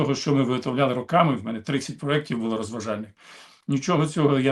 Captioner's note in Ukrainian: сопіння